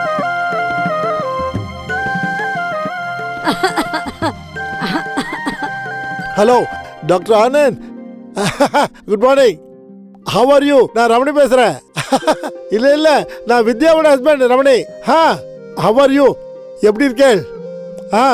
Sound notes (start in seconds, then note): 3.4 coughs